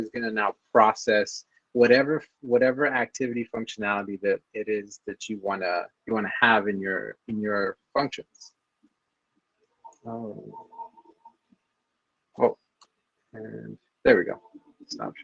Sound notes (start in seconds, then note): none